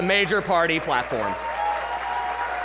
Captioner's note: cheering and applause